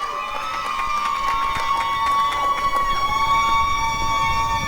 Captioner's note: applause and cheering